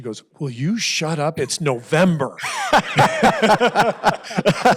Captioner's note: laughter